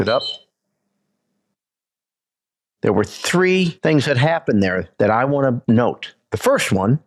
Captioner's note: whistle blows